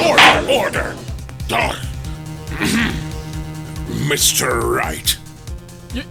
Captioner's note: gavel slams!; groan